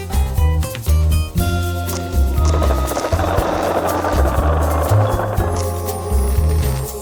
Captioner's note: sky key sparks